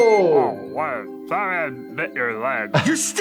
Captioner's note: murmurs